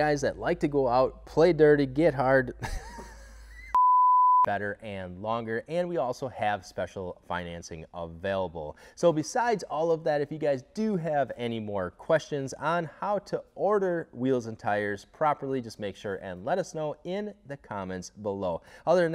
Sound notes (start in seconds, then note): 2.7 laughing